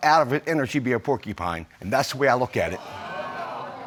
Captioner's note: audience exclaims